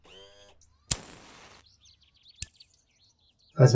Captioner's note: Ace flicks his lighter